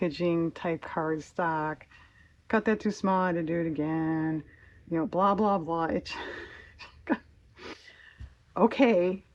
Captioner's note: laughs